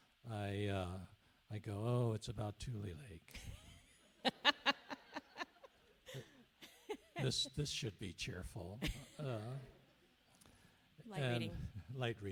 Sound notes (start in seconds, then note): 4.2 laughs